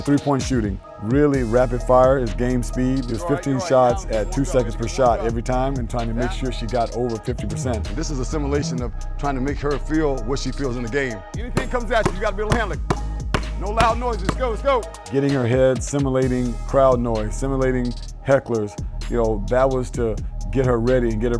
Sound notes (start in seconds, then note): 11.6 smacks ball